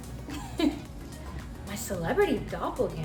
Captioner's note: laughs